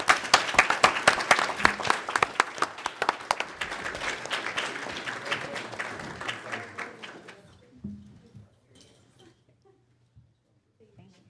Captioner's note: applause